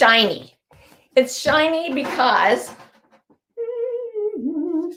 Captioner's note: hums